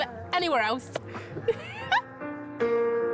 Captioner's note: laughs